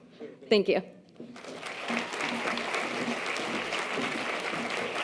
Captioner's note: audience applause